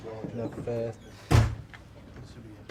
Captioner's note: chatter goes silent